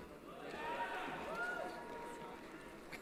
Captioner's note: cheering